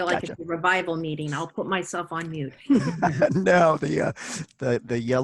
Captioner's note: laughs